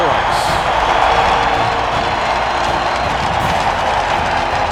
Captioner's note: crowd cheers